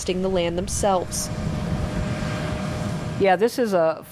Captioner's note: tractor rumbling